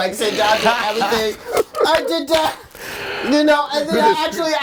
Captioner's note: all laughing